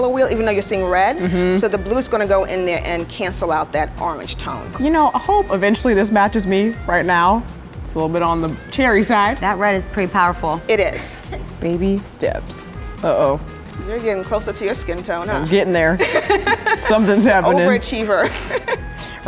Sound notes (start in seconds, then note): 16.0 laughing